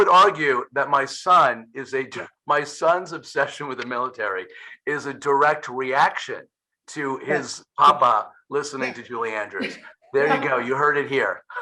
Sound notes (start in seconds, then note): 10.1 laughing